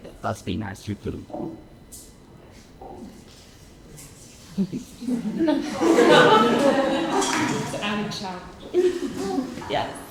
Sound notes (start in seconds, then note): 5.0 audience laughing